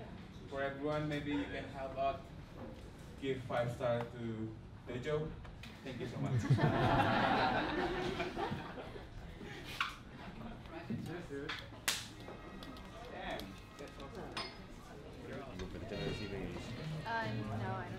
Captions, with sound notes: For everyone, maybe you can how about give five stars to Dojo. Thank you so much. (laughing) (audience chattering)